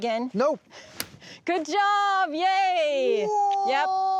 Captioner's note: cutting sound